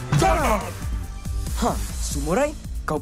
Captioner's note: satisfied grunt